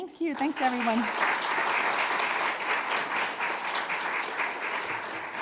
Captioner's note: audience clapping